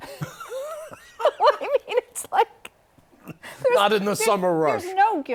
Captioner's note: laughter